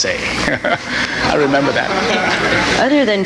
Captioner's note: audience laughing